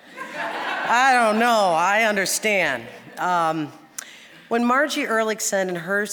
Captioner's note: audience laughing